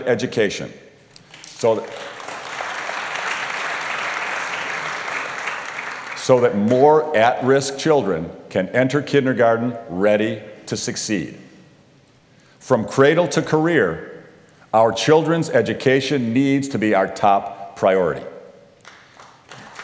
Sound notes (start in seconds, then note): 1.2 applause